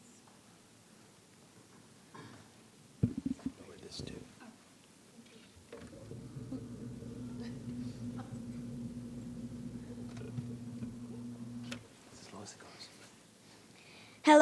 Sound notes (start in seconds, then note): 3.0 microphone creaking